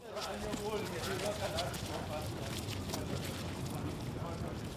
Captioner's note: people chattering